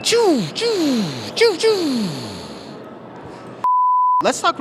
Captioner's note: makes blaster sounds